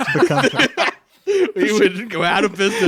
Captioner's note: laughing